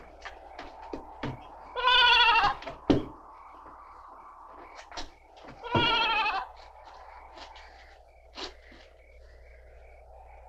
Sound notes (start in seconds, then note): 3.6 insects chirping; 6.5 wind whooshing